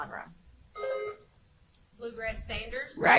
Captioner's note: buzzer chimes